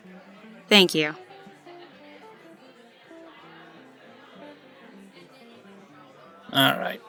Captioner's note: crowd ambience slowly returns to normal